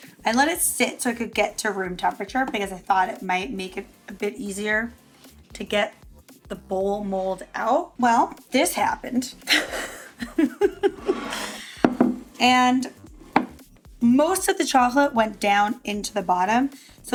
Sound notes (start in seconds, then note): 9.4 laughs